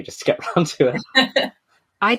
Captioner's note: laughs